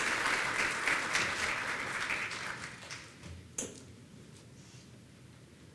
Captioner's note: applause